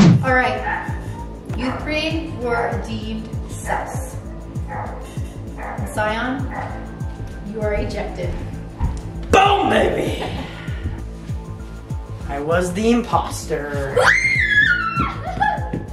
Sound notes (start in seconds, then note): 9.9 Light Blue chuckles